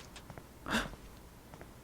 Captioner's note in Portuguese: suspiro